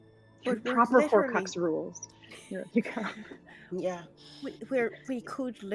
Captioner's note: laughs